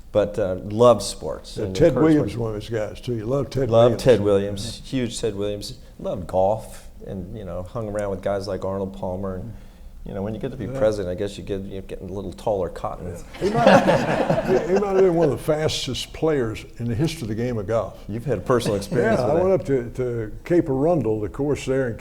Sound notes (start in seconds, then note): 13.3 audience laughs